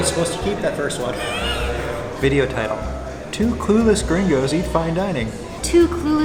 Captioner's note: laughter